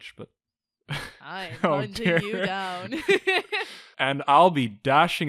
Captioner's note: laughs